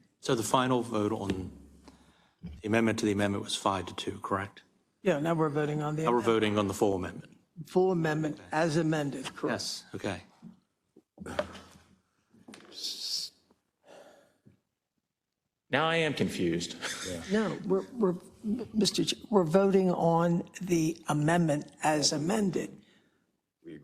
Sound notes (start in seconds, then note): 16.7 laugh